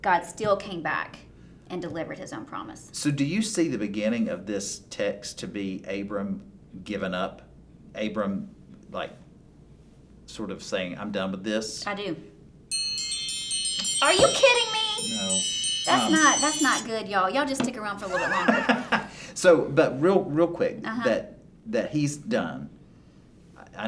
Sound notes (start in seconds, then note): 12.7 timer rings; 18.0 both laughing